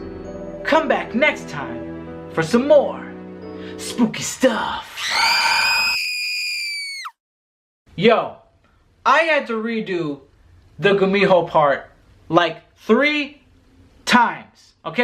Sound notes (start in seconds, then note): 4.8 screaming